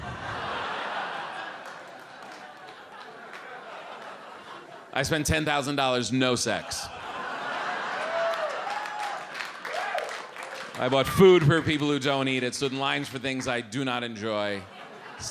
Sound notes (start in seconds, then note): 0.3 audience laughs; 7.0 audience cheers